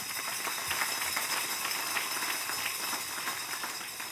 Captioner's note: applause